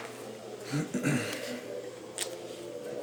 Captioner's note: clearing throat